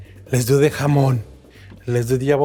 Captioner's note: speaking in foreign language